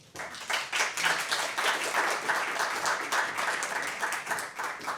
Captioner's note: applause